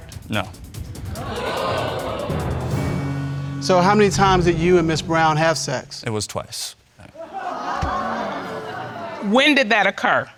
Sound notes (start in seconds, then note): 1.0 audience exclaims; 7.1 audience exclaims